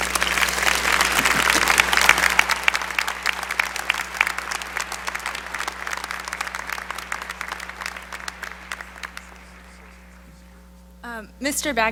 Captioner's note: applause